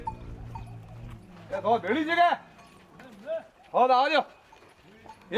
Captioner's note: non-english speech